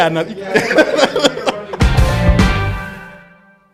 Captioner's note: laughs